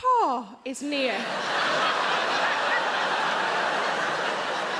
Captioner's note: audience laughs